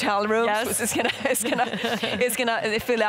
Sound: everyone chucking

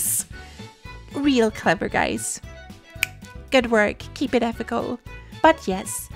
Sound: finger snap

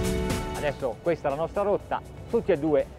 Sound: speaking in foreign language

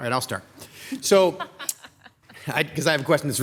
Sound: council members laugh

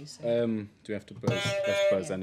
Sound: honk

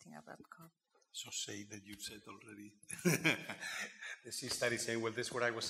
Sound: laughing

